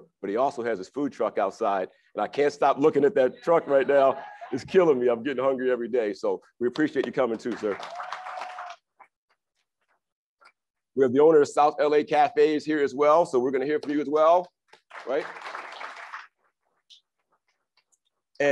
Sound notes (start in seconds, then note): 7.3 crowd applauds and cheers; 14.8 crowd applauds